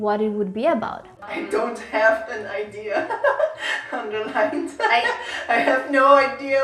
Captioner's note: laughs